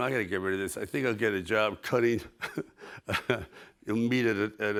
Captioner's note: chuckles